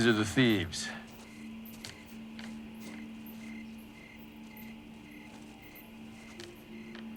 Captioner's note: crickets continue chirping; gentle mysterious music